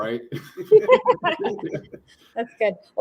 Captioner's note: laughter